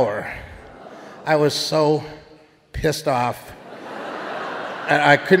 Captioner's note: audience laughing